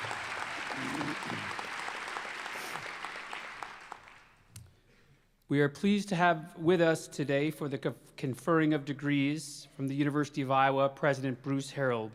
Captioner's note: applause